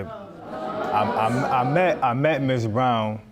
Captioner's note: stutters